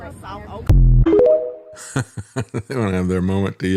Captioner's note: laughs